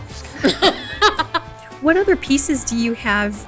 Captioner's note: laughing